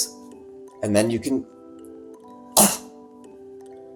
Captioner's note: scoffs